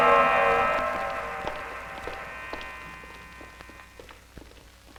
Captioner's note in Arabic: صوت خطوات قوية